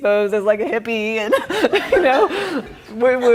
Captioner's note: laughing